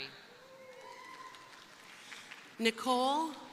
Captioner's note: crowd cheering; crowd applauding